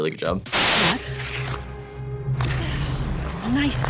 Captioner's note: white noise